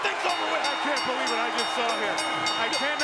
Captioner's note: bell rings